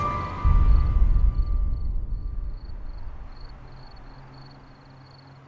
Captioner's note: crickets chirping